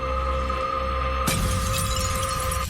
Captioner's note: glass breaking